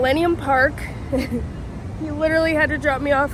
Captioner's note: chuckles